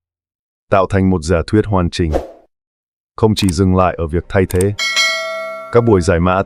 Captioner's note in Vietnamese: chuông